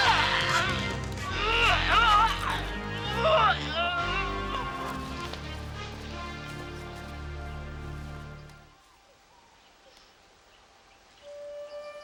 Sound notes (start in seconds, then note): 0.0 dramatic music; 0.1 Fu grunting; 5.0 dramatic music